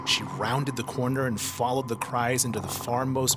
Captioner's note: none